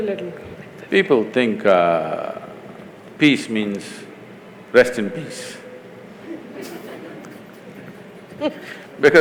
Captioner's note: laughter